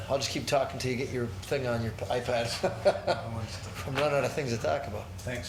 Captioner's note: laughs